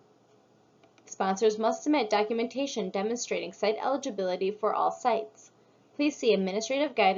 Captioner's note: click